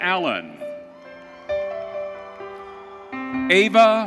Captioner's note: audience cheering